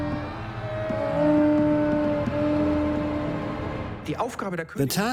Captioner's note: horn sound